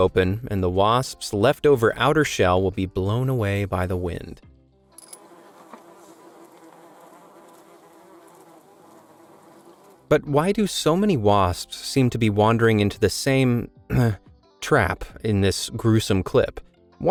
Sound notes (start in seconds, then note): 5.0 wasps buzzing